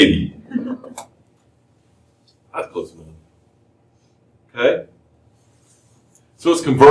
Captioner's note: laughter